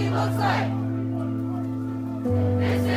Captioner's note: ghostly Voice